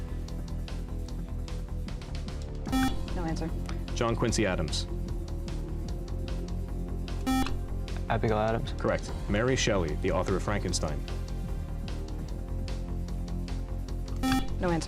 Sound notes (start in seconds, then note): 2.7 buzzer; 7.2 buzzer; 14.2 buzzer